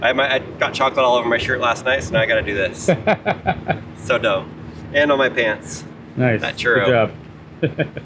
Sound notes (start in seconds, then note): 2.7 laughs